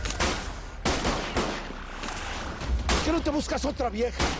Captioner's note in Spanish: Disparos